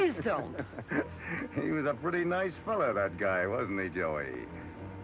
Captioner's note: laughs